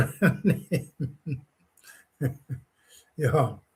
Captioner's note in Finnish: naurua